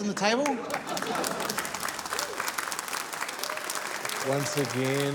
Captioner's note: applause